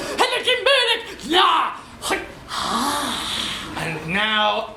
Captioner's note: “nah, heught, hahhhhh”